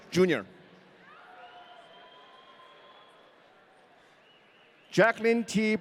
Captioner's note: audience cheering